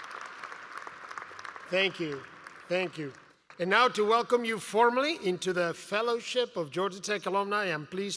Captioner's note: applause